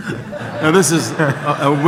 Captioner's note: audience laughs